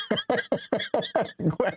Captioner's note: laughing